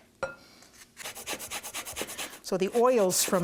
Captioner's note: grating